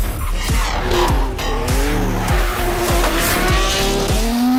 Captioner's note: engines rev